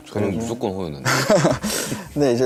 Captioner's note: haha